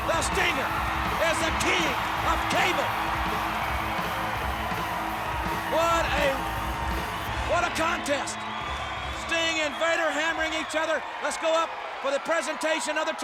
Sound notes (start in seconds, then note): 3.0 audience cheers; 3.0 upbeat music